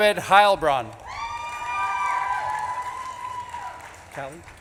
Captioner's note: audience claps and cheers